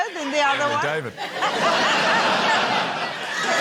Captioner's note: laughter